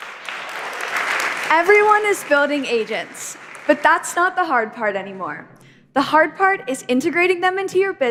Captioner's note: applause